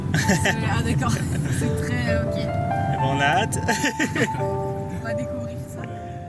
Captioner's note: laughs